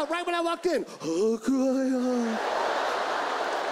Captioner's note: imitates Korean in ghostly voice